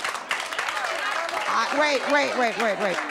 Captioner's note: applause